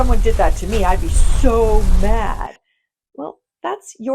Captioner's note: fire crackling